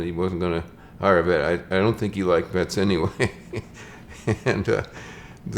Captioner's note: laughs